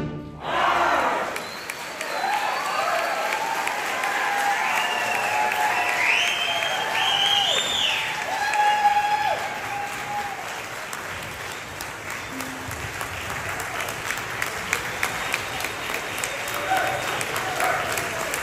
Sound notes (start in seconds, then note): 1.7 applause